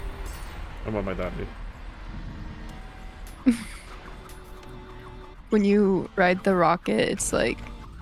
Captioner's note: laughing